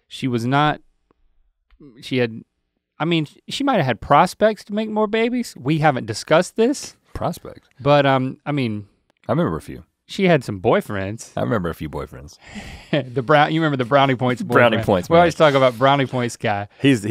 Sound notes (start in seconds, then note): 14.2 Links chuckles